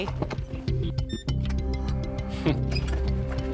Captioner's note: door beeps